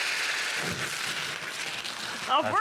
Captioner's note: sizzling; poof